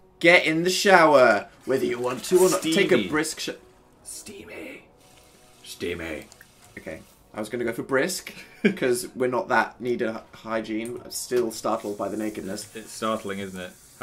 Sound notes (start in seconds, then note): 4.0 whispering